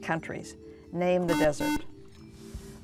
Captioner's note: beeping